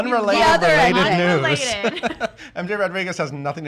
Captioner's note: laughing